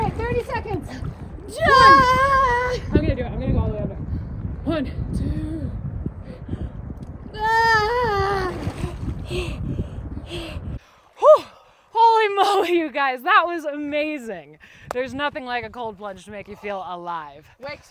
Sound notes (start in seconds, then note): 0.0 gasping; 1.5 screaming; 7.8 screaming